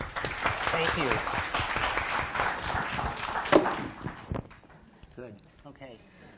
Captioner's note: applause